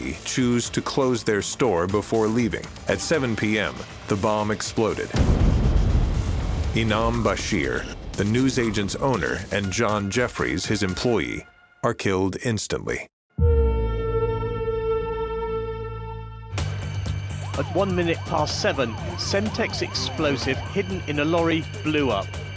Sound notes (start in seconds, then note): 5.1 explosion